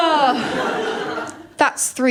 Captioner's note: laughter